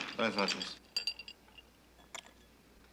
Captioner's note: ice cubes clattering